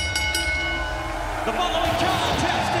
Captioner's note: bell ringing